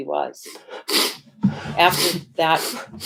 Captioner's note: sniffles; sobs, sniffling